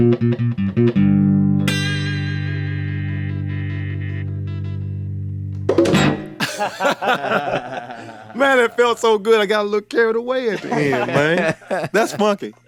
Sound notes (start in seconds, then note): 6.4 all chuckle